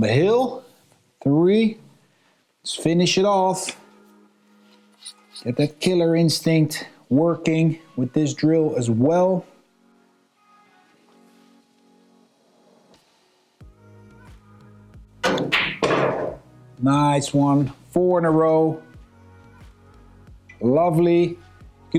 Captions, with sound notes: I'm on the hill, three. Let's finish it off. Get that killer instinct working with this drill as well. (lively music) (balls clanging) Nice one. Four in a row. Lovely.